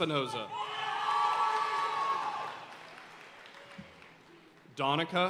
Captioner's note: audience cheering and applauding